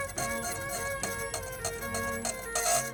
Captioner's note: none